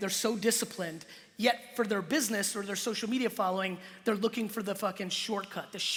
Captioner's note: none